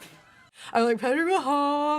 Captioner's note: laughs